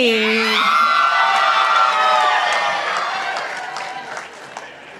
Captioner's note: participants applauding